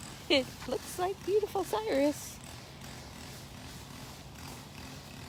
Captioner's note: machine noise